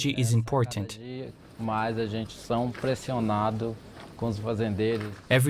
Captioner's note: speaking Portuguese